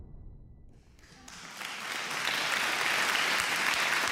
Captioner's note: applause